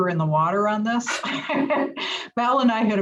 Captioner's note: laugh